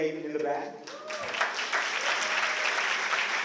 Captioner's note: applause